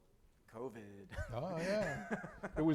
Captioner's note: chuckles